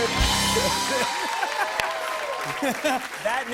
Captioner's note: laughter and applause